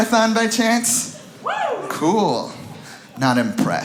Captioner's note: audience member whoops